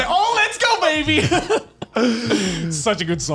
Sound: laughs

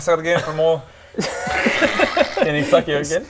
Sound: more disturbed laughter

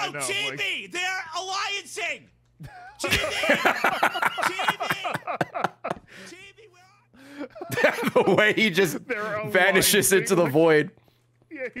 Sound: laughs

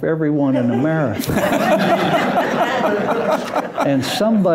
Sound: loud laughter

